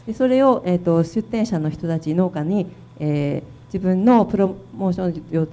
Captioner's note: speaking foreign language